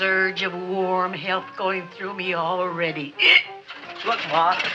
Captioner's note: hiccups